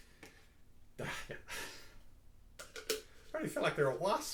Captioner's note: chuckles